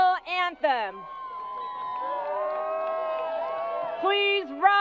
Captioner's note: crowd applause